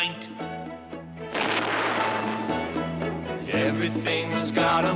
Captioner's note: thunder crashes